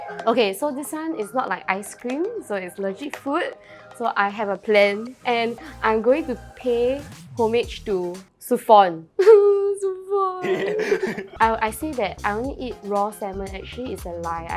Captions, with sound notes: Okay so this one is not like ice cream so it's legit food so I have a plan and I'm going to pay homage to Suphon. *cries* Suphon! I say that I only eat raw salmon. Actually it's a lie.